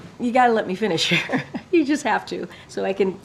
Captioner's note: laughs